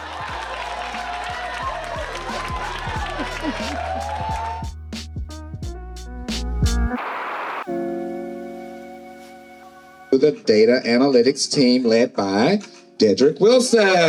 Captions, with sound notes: (audience cheering) (upbeat music) - The Data Analytics team led by Dedrick Wilson.